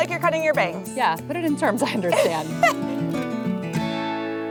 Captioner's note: laughs